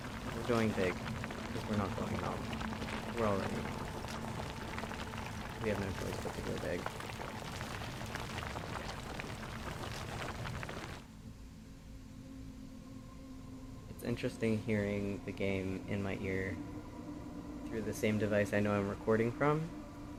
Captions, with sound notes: We're going big. 'Cause we're not going home. We're already home. We have no choice but to go big. [gravel sounds] It's interesting hearing the game in my ear through the same device I know I'm recording from,